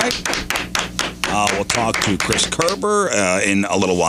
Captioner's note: clapping